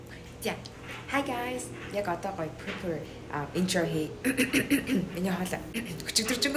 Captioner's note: clearing throat